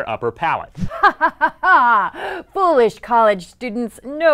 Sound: laughing

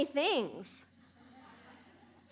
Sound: laughter

